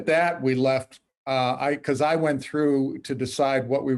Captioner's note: chuckles